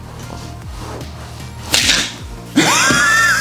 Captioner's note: laughing